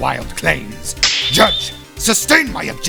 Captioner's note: snap!